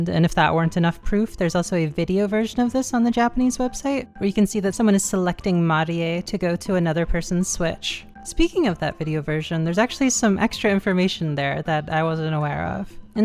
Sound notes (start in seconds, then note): none